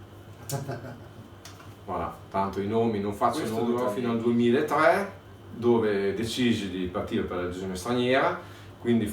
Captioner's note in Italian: Risate